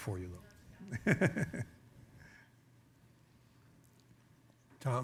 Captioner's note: chuckles